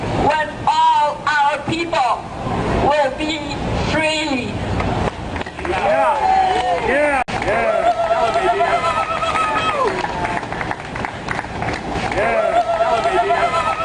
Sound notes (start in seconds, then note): 5.2 clapping